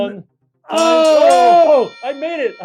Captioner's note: bell ringing